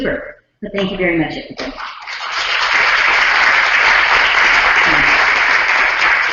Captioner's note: applause